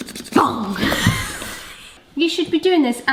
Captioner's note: paper scratching; shouts